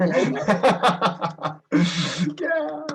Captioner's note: laughing